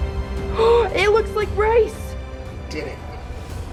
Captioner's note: mom gasping